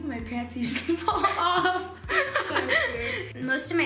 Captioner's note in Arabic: يضحك